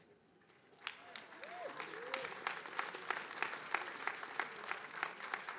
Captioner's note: attendees cheering and applauding